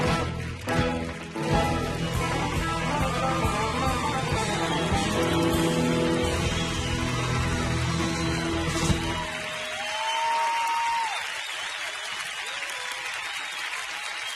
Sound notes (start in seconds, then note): 7.0 audience cheering and applauding